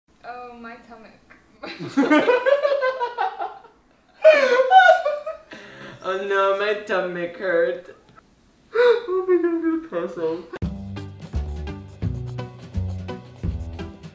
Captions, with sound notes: - Oh, my tummic. (laughs) - Oh no, my tummic hurt. Oh my god, I'm gonna pass out. (cheerful string music)